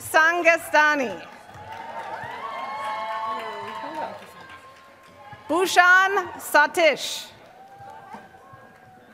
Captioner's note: applause